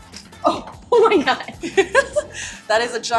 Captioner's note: laughs